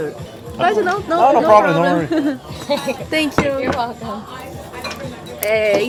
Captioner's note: english conversation